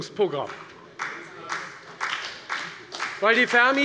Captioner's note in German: Beifall bei der FDP